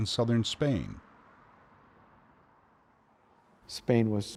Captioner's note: cars humming